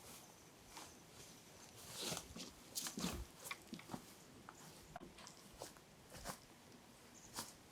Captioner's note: rustling